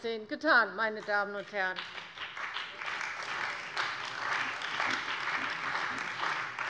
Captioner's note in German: Beifall bei der CDU und dem BÜNDNIS 90/DIE GRÜNEN